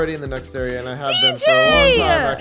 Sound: laughing

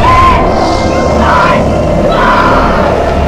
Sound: screaming

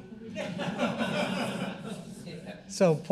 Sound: audience laughing

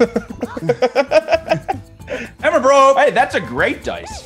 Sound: laugh

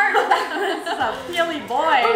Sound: laughing

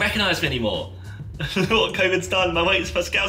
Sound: laughs

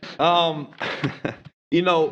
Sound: laughter

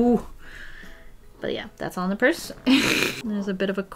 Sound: laughs

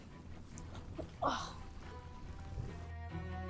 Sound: grunts

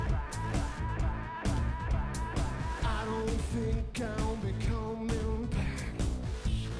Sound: echoing

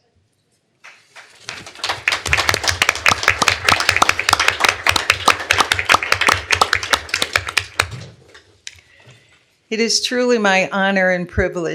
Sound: applause

